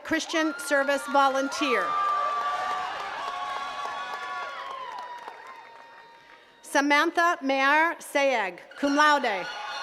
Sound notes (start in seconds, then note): 2.3 attendees cheering and clapping